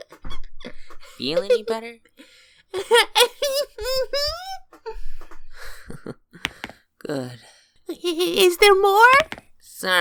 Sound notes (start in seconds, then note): 2.7 giggling; 4.9 sigh of relief